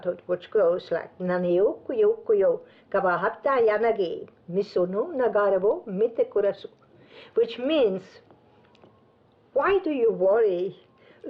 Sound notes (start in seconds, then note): 1.3 speaking Japanese